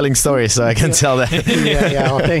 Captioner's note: laughs